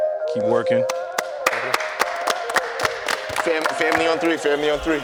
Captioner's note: team claps